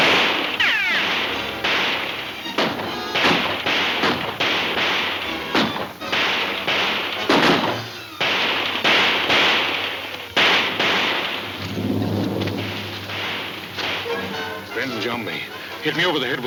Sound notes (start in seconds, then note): 0.0 gun firing; 0.0 shot ricocheting; 0.3 guns firing; 10.1 gun firing